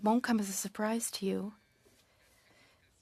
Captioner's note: speaking French